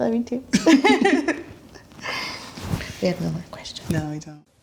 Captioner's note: both laugh